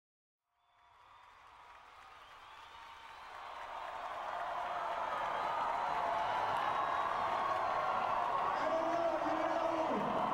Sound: cheering

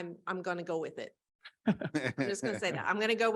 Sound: laughter

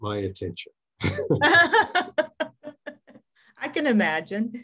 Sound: both laughing

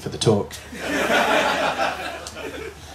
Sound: laughter

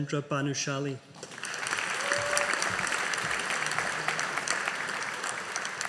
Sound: audience applauding

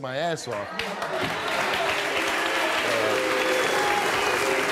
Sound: audience jeers

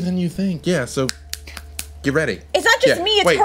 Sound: fingers snapping

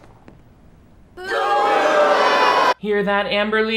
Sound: audience boos

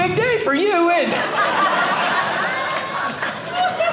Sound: audience laughing

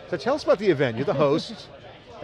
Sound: chuckles

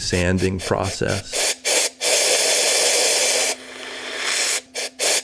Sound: machine whirring

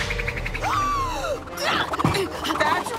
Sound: gasping

